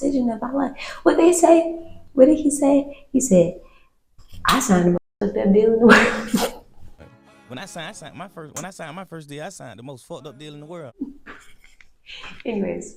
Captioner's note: laughs